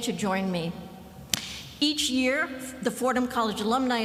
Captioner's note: none